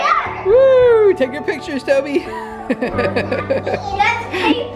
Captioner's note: laughs